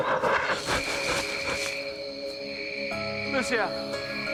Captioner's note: pants; crickets chirp